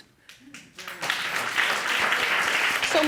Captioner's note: audience applauding